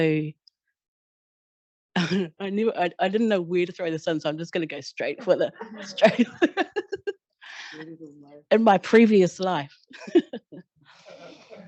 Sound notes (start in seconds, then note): 5.2 laughter